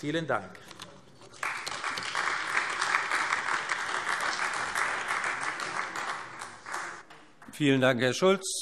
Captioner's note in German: Beifall AfD